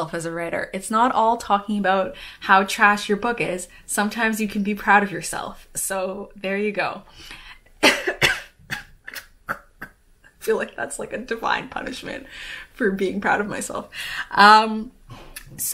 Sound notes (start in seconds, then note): 7.8 coughs